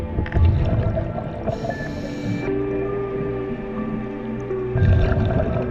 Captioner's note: underwater sounds continue; dramatic music continues